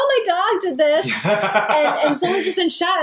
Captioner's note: laughs